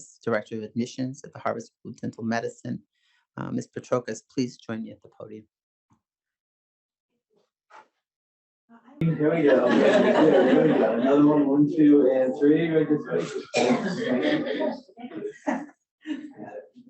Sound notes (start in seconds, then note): 9.0 audience laughing